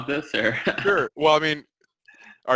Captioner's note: chuckles